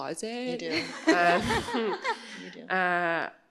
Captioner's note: laughter